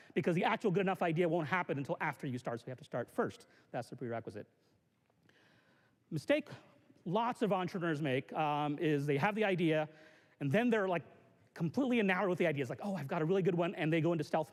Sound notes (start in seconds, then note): none